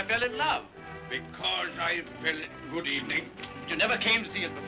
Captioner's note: mocking